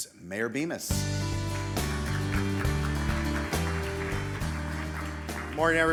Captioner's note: uplifting music; audience applauding